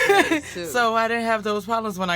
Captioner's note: laughs